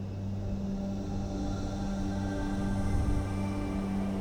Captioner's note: meditative music; heavy winds